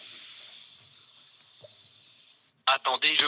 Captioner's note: automated voice